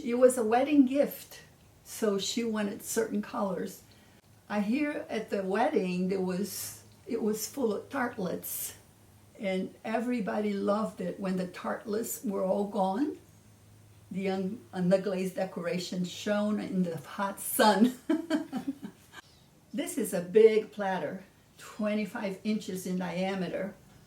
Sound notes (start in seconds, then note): 17.9 laughing